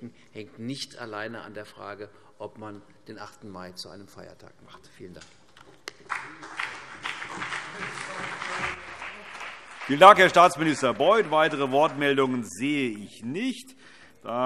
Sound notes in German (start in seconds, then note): 5.9 Beifall CDU und BÜNDNIS 90/DIE GRÜNEN